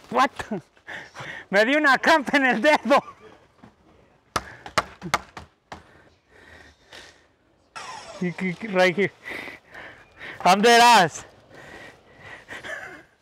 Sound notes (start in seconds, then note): 2.2 laughs; 4.4 palm smacks; 8.3 speaks in foreign language